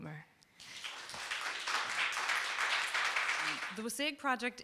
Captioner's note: group clapping